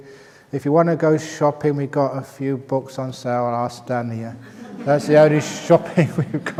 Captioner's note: laughter